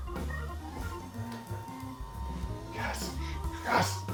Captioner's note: desk whirs